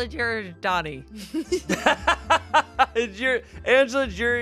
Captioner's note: everyone laughs